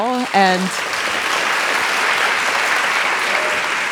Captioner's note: audience clapping